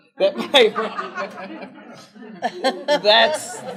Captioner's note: laughter